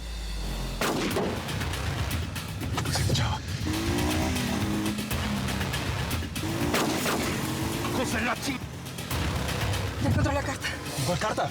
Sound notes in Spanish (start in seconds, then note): 3.9 ruido del vehículo; 6.1 ruido de la motocicleta